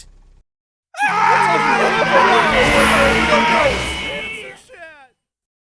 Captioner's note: overlapping screaming in terror